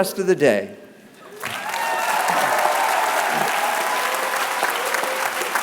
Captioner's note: applause